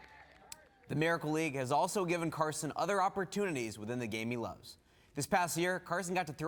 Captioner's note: cheers and applause